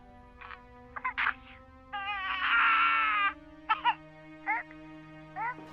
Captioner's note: coughing y crying